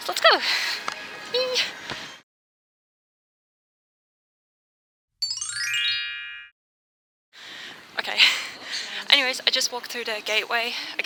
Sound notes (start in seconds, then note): 5.2 magic chime